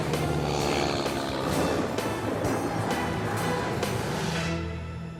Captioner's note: engine roaring